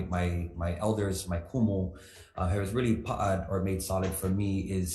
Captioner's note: speaks foreign language